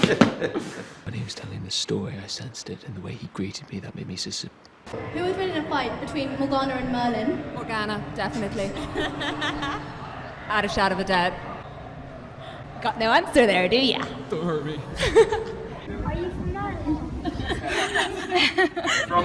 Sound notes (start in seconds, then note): 0.0 Richard laughs; 3.8 stutters; 8.4 laughs; 14.9 laughter; 17.2 laughter